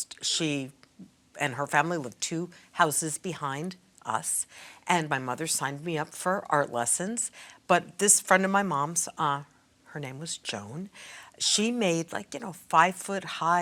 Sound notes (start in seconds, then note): none